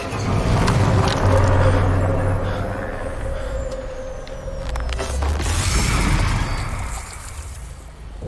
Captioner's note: reaction breaths